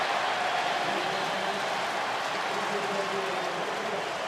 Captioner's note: crowd cheering